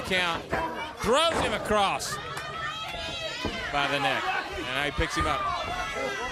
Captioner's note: crowd chatter